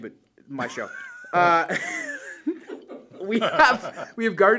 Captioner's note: laughter